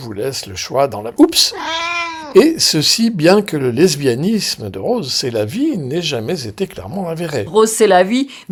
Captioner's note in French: miaou